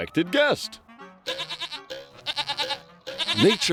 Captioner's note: bleating